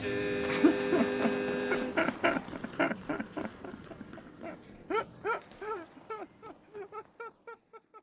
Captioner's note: laughing fades to silence